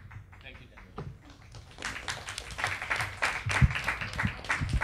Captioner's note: clapping